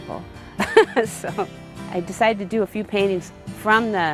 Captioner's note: laughs